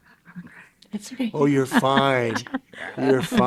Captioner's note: chuckling